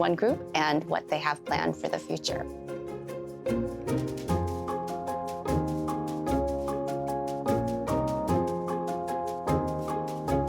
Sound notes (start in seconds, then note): none